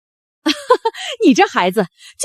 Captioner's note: laughter